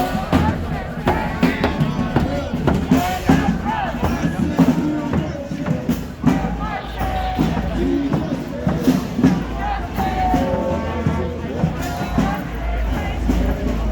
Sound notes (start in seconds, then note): 4.8 protesters speaking; 9.3 protester speaking